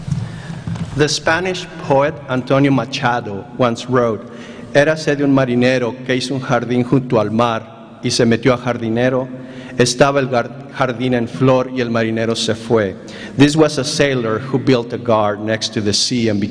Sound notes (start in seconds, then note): 7.8 speaking spanish